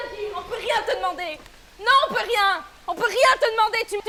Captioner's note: argumentant en français